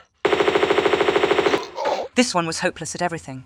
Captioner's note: bratatatatatatata